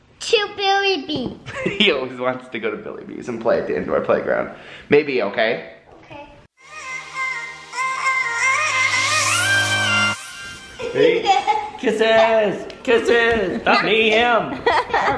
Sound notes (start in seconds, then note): 6.6 upbeat music sting; 11.4 laughs